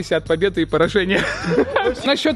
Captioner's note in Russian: смеются